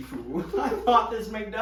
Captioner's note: they laugh